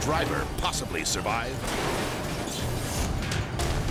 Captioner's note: car crashing